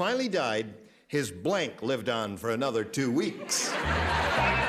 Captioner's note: laughter